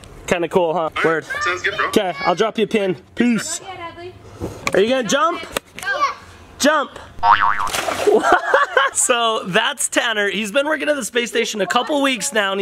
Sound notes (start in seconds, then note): 7.2 boing sound effect; 7.2 splashes; 9.0 laughs